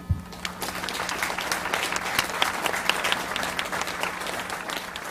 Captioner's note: audience applauds